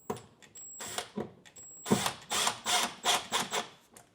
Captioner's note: drill whirring